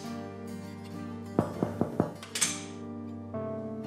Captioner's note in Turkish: Kapı vuruluyor